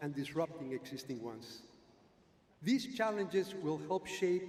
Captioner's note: none